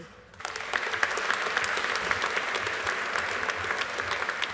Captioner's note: audience applauding